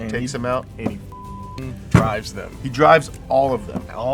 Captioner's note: beep